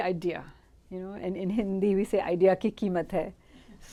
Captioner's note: hindi